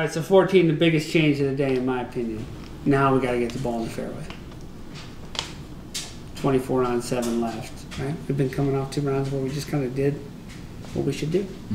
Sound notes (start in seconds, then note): none